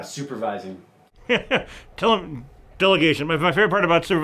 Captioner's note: laughs